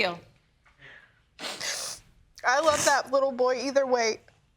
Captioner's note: sniffles